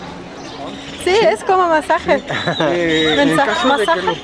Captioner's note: in Spanish